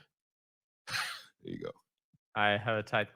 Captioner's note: laughs